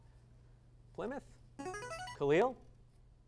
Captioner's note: device sound